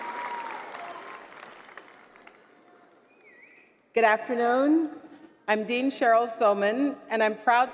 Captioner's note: applause